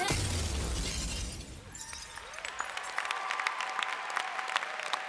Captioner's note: applause